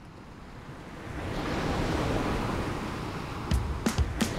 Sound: waves crashing; upbeat music

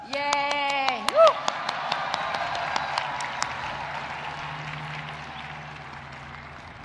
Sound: audience cheering and applauding

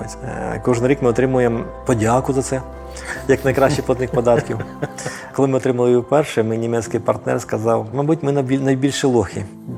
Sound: laughs

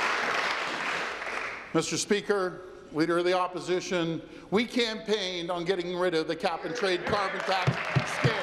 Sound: applause

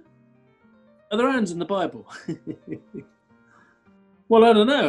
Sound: chuckling

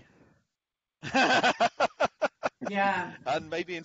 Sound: laughs

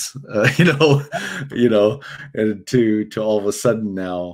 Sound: laughs

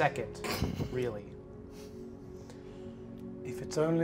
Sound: laughs

